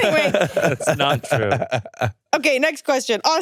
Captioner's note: laughs